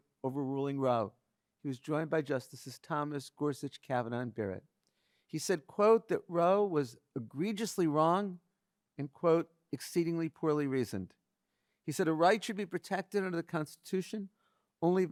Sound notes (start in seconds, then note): none